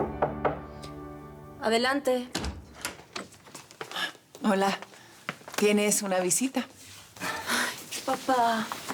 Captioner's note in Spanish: Toques en la puerta